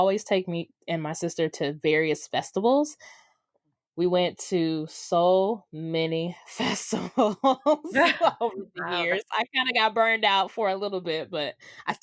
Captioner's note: laughs